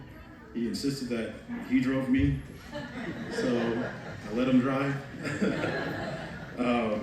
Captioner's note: laughter